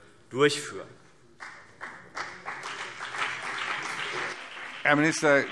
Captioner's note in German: Beifall CDU und BÜNDNIS 90/DIE GRÜNEN